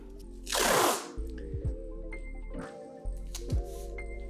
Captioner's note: duct tape crackling